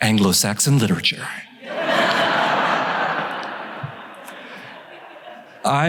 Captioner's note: laughing